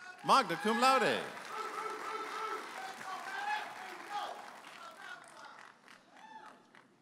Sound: audience applauding and whooping

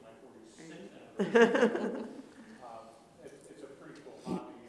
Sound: laughter

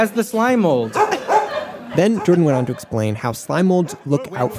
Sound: Macy barks

